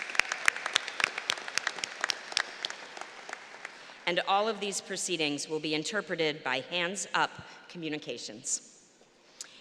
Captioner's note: applause